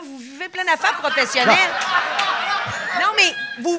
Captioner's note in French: rires